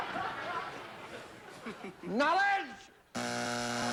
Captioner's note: buzzer